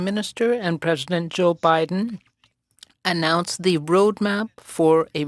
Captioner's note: speaking French